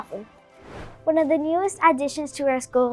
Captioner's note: air whooshing